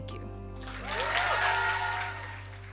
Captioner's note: cheers and appluase